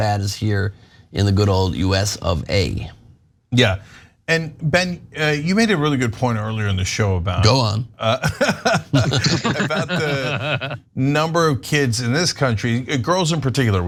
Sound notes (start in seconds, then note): 8.0 laugh